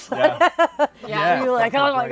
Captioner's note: laughter